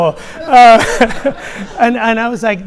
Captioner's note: laughs